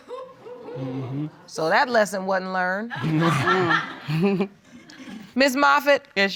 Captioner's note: laughing